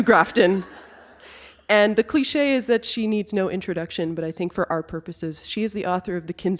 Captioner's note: laughter